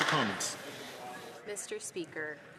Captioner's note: some Applause